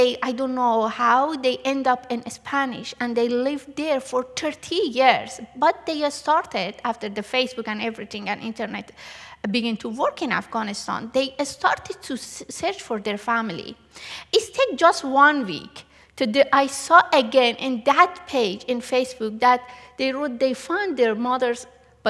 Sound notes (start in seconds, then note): none